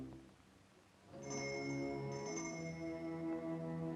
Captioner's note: bell rings